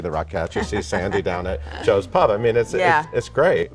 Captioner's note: laughs